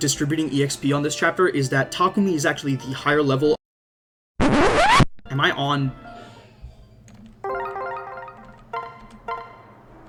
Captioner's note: record scratch